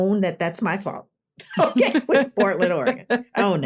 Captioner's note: laughter